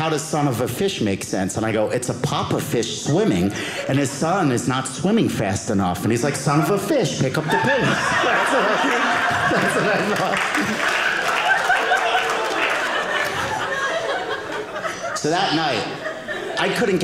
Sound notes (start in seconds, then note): 10.2 audience applauding